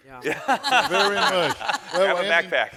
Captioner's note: panelists laughing